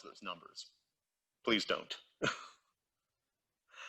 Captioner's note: chuckles